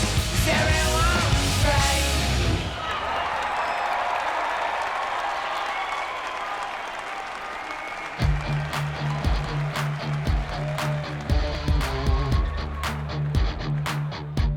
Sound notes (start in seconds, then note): 3.0 crowd cheering